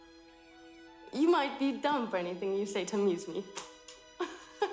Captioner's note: laughs